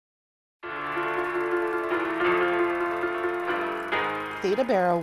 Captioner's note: bright music; projector whirring